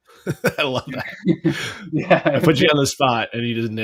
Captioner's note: laughs